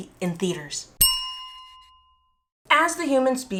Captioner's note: bell chime